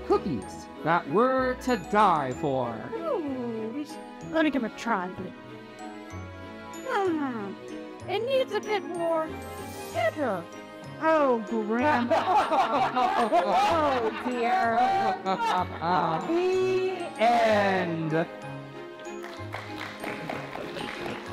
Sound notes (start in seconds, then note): 6.3 gentle music; 11.9 everyone laughs; 19.1 audience applauding